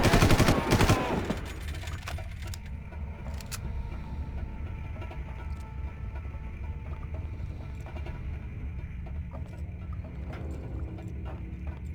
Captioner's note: gun firing